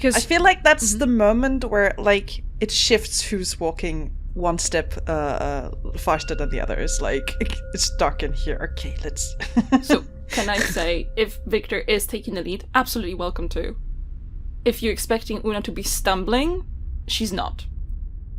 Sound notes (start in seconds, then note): 8.8 intermittent chiming of a bell; 10.3 laughs